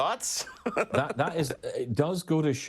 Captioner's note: laughing loudly